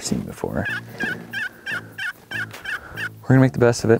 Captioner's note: call squeaking